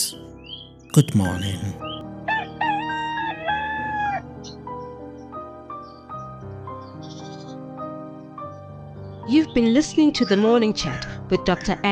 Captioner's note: rooster crows